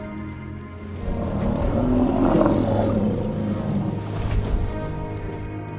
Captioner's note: animals calling; rumbles